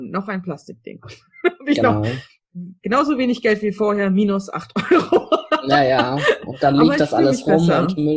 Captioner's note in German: lacht